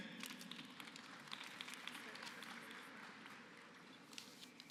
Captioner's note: applause